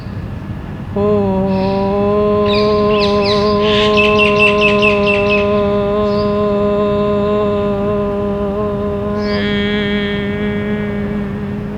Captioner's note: chanting